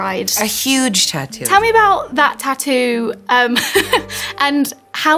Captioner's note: laughs